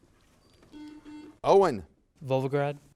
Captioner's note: buzzer buzzes